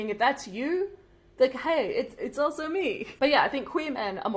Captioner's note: none